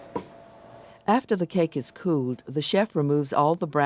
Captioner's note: voiceover